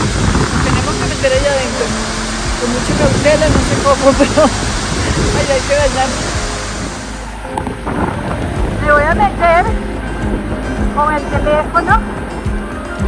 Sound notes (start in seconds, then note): 4.3 laugh